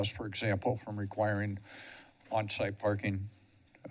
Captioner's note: none